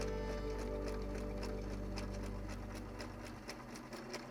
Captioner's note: sewing machine tapping